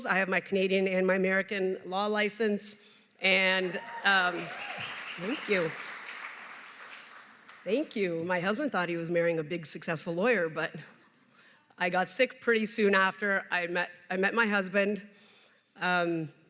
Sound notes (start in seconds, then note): 3.6 cheering, applause